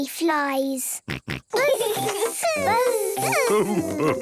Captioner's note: both buzzing